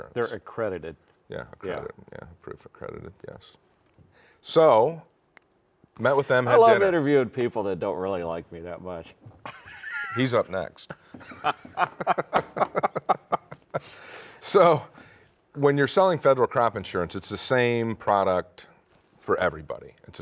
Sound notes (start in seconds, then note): 9.7 laughs; 10.9 laugh